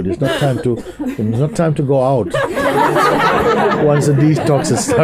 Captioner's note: laughter